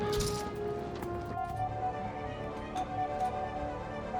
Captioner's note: pinging